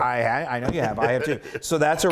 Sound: laugh

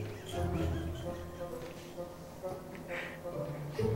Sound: laughing

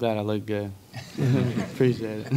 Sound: laughing

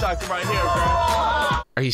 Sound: people shouting in disgust

